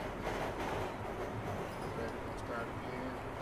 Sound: train rails clattering

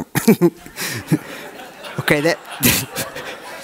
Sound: audience laughs

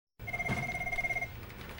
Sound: telephone rings

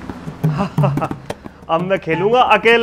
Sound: laughs

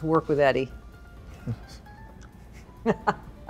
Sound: laughing

